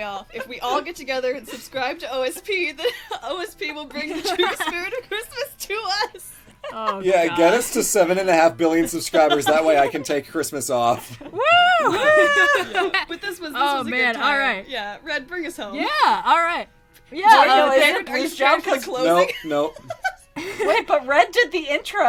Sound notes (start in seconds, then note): 0.0 laughter; 3.9 laughter; 11.3 general WOO!-ing